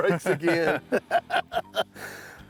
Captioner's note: both chuckling